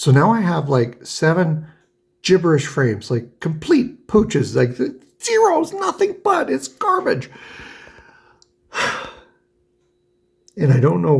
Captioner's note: sighs